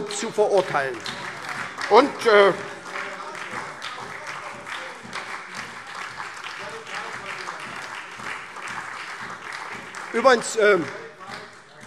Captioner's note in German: Beifall : Völlig falsch, was Sie da sagen!